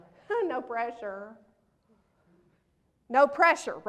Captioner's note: laughs